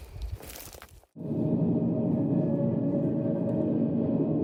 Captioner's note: air whooshing